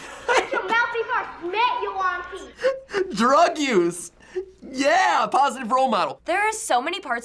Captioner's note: chuckles; laughs